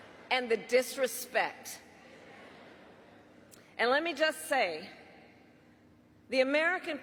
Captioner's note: laughter